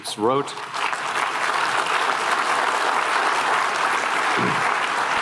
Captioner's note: applause